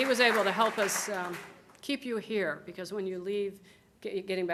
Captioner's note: applause